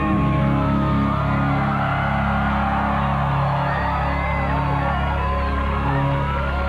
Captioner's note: applause